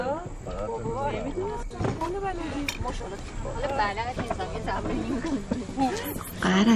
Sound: roar of chatter

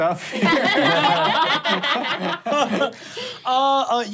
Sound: laughing

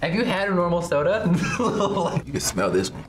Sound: laughs

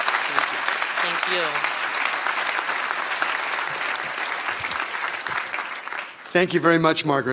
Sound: applause

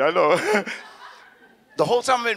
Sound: audience laughs

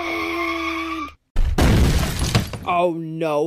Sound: crashing

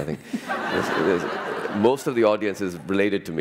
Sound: laughter

